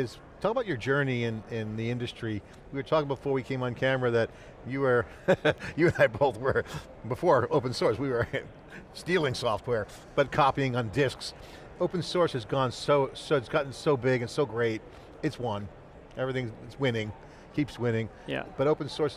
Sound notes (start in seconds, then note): 5.1 laughing